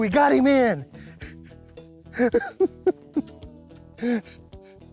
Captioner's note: laughing